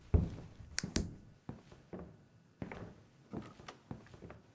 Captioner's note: snaps fingers